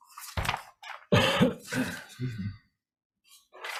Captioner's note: coughing